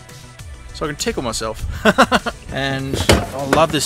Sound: laughs

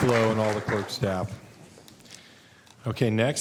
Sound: applause

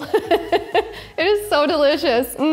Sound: laughs

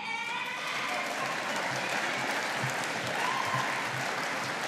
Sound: audience applauding

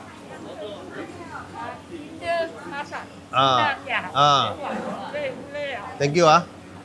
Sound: conversation in Malay

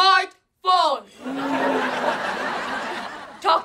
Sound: grunting

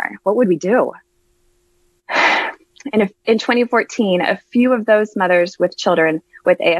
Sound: sigh

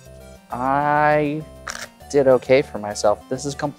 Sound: cards riffling

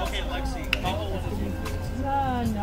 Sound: chatter

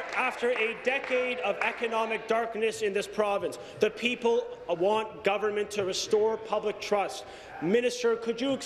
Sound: applause

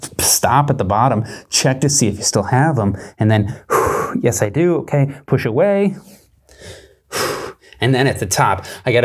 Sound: exhales

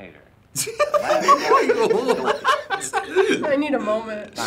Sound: both laugh

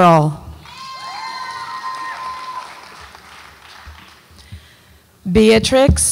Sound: audience applauds and cheers

